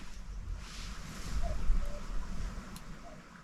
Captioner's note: cuckoo